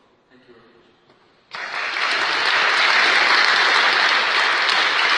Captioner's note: applause